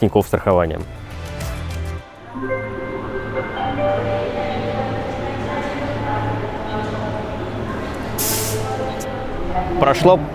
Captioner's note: train station announcement